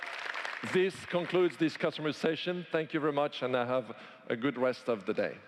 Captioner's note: applause